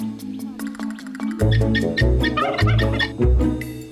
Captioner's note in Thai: เสียงไก่